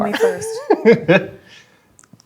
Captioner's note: laughs